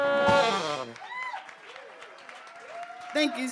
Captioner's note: crowd cheers